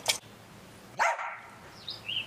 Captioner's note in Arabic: كلب ينبح